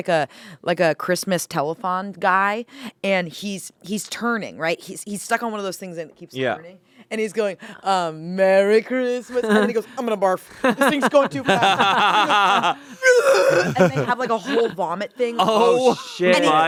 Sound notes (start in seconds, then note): 12.1 laughing; 12.8 mimics barfing